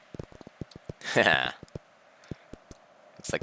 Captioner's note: laughs